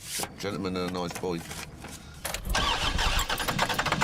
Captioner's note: engine turning